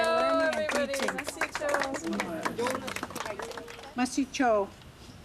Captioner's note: clapping